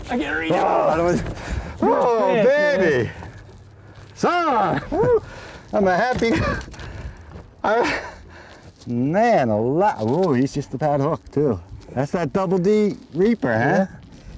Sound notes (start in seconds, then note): 7.1 out of breath